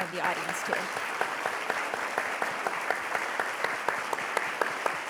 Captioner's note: audience applauding